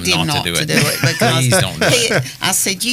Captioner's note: laughing